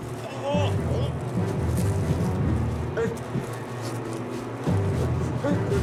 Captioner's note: dramatic orchestral music; Damien gasping